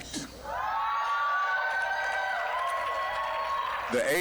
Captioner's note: applause, cheering